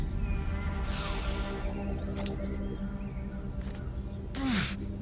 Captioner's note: dramatic music; birds chirping